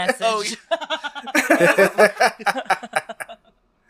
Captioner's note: laughs